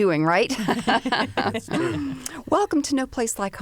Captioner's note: laughter